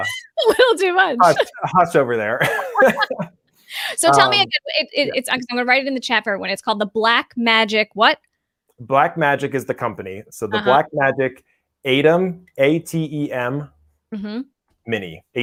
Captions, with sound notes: - (chuckles) We'll do lunch. - That's over there. (laughs loudly) - So tell me, I was gonna write it in the chapter when it's called the black Magic, what? - Black Magic is the company. So the Black Magic ATEM, A T E M, Mini.